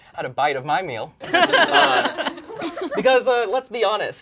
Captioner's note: all laugh